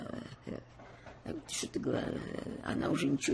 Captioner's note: mumbling; mumbling